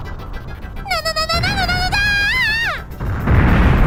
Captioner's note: panicked scream